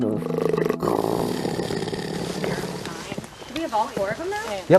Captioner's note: wolf growling